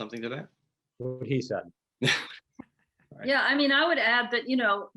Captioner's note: laughing